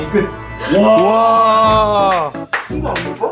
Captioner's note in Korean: 단체 환호